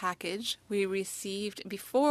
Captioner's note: speaking French